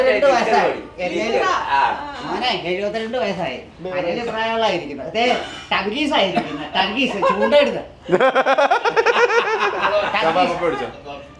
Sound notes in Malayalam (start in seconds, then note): 8.0 പൊട്ടിച്ചിരി